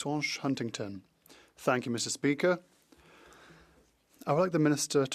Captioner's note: speaking French